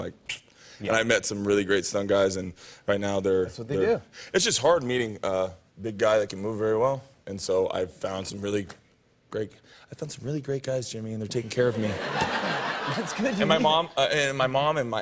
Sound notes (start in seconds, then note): 11.7 laughter